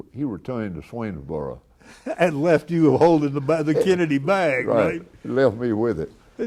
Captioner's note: chuckles